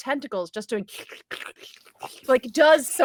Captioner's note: squelching